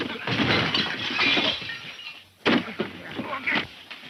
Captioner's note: bottles clanking